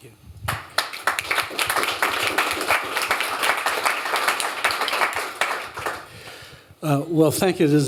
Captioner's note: applause